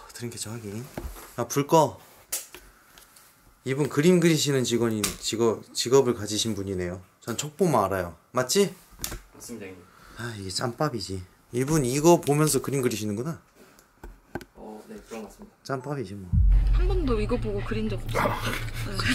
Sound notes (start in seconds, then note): 2.2 the sound of turning off the light